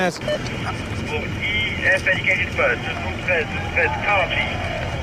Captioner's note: man speaking foreign language over radio